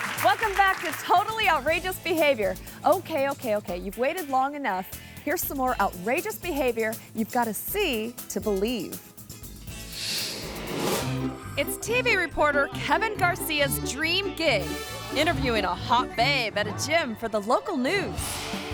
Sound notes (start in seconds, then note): 0.0 audience clapping and cheering; 9.2 upbeat music; 9.8 image whooshes